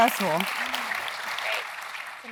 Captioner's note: applause